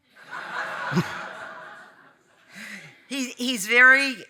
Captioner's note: audience laughing